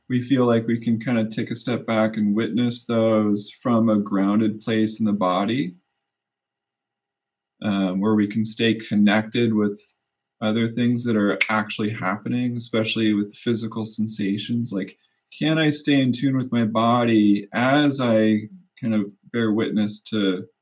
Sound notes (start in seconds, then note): 10.7 snap